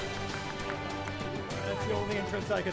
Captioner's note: applauding